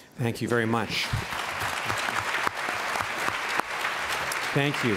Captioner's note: applause